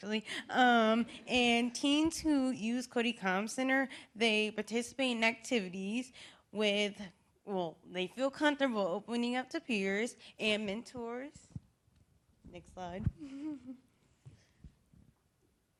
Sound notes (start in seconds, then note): 0.8 laughter